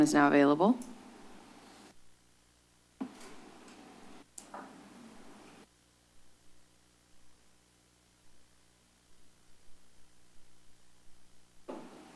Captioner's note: silence